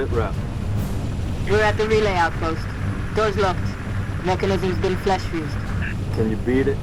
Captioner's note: radio